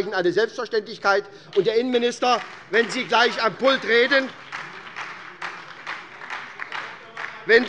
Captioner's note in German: Beifall bei der SPD